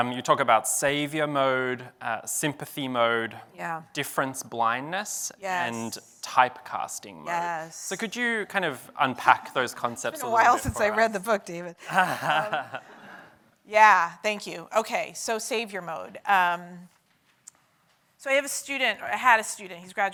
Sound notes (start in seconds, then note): 11.8 laughs